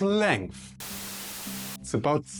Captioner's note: static noise